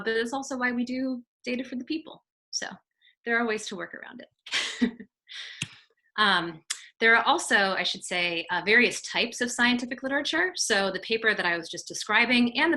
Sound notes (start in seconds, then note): 4.6 chuckles